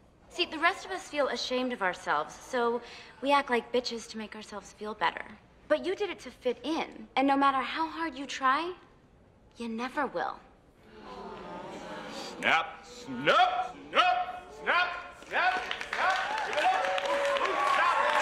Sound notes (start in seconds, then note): 10.8 croud gasps